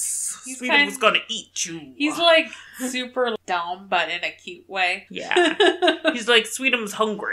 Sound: laughs

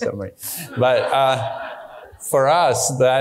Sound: audience laughing

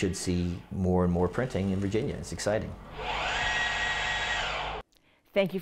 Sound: machine whirring

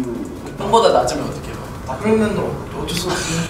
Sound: speaking Korean

